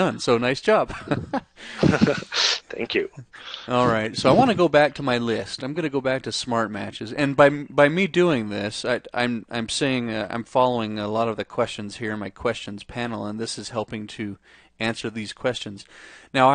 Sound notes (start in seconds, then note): 0.9 laughs